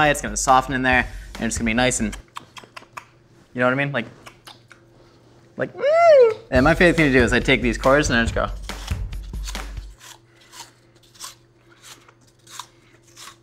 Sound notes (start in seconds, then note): 2.2 munching; 4.4 munching; 8.6 crunching apple